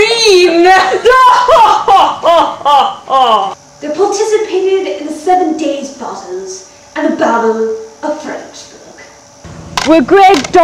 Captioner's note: fake laughter voice-over